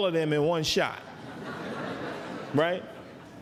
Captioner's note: laughter